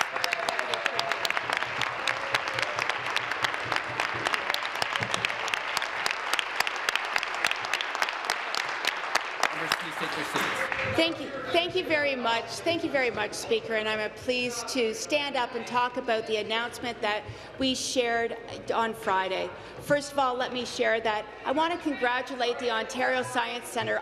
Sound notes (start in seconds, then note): 2.4 applause